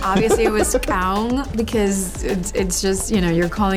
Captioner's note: speaking na'vi